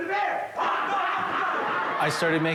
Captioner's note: actor yelling